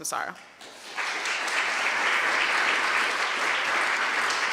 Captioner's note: applause